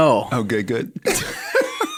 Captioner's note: chuckle